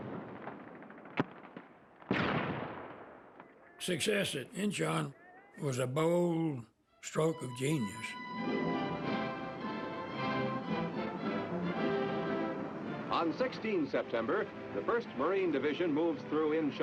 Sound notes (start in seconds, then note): 1.9 artillery fire